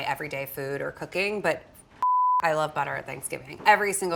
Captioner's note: beep